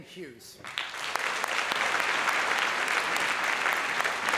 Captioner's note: applause